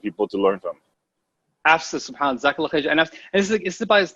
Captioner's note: speaking a foreign language